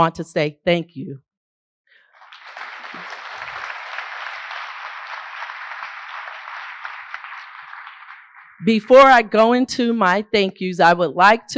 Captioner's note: applause